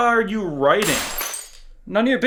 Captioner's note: iMac shattering